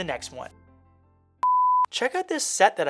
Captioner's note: beep